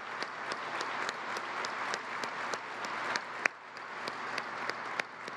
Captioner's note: applause